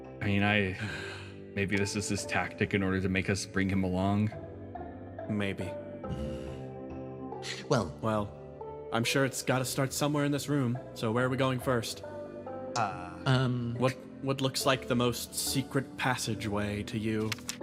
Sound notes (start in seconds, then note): 0.7 M Sigh